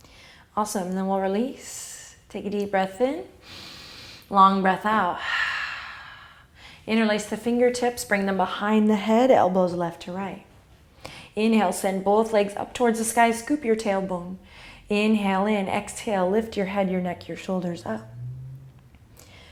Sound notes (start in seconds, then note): 3.4 exhale; 3.5 inhale